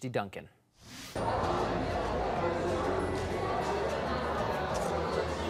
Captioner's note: opening party chatter